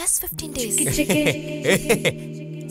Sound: laughs

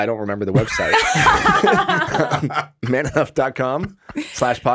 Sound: all laughing

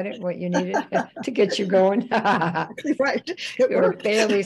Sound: laughing; laughs

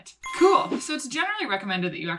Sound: bell dings

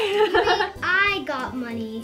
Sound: chuckles

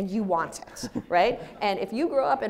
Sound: audience laughs

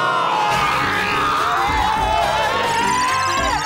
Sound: screams

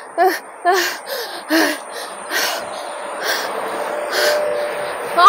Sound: panting

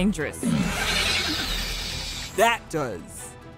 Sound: Demogorgon screeching

